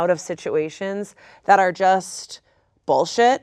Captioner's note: none